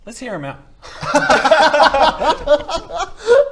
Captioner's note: incredulous laughter